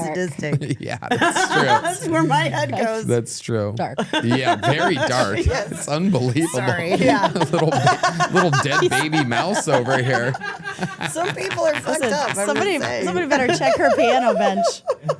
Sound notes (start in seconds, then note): 0.1 laughs; 7.4 laugh; 14.9 laughs